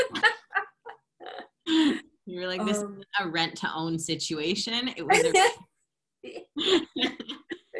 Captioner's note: laughter; laughter